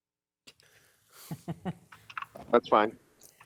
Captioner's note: laughing